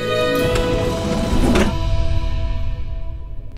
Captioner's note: Lift door poens